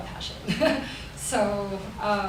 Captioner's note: chuckles